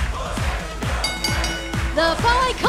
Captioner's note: fans chanting; bell ringing